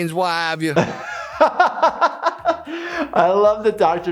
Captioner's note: laughing